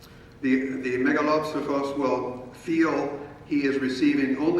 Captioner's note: speaking in foreign language